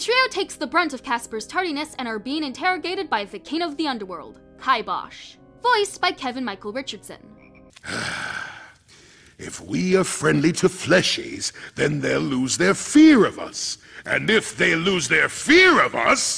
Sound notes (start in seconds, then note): 7.8 sigh